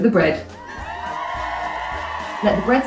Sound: cheering sound effect

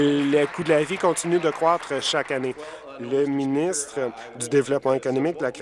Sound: applause

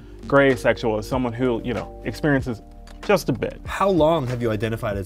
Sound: none

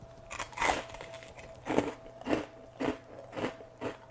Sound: bread crunching

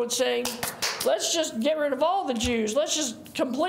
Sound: claps

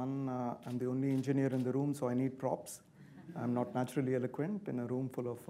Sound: laughter

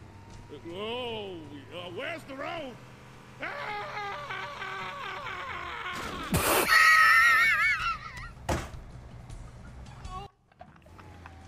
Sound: laughs

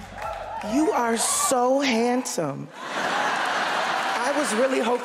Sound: audience laughter

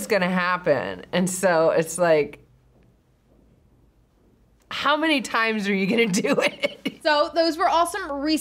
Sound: chuckles

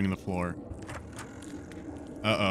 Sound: quiet creaking

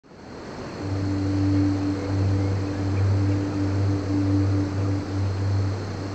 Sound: distant foghorn blowing; birds chirping

